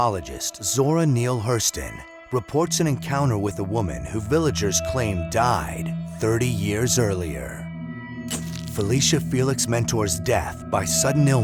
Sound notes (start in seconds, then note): none